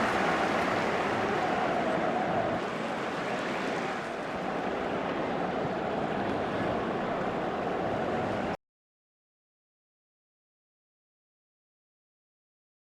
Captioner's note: applause